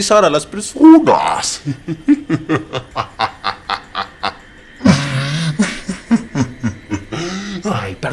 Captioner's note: laugh